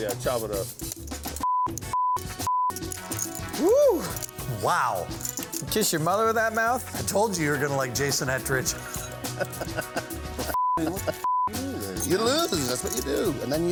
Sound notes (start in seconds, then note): 1.4 beep; 8.8 laughing; 11.2 beep